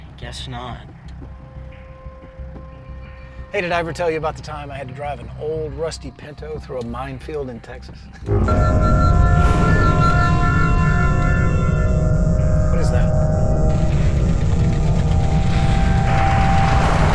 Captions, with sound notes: - Guess not. - Hey, did I ever tell you about the time I had to drive an old rusty Pinto through a minefield in Texas? (loud ringing) What is that? (eerie music)